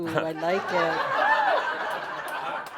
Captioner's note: laughter